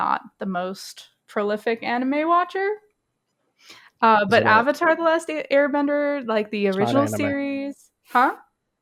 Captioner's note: laughs